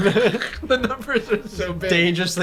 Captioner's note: laughter